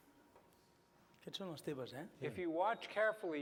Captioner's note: non-english speech